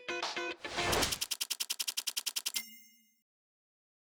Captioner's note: split-flap display flutters